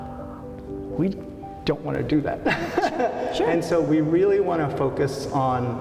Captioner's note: laughs